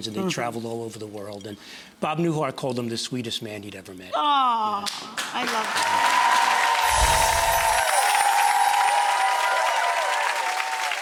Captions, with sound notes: and they traveled all over the world. And Bob Newhart called him the sweetest man he'd ever met. Aww, I love that. (audience clapping) (bells chiming)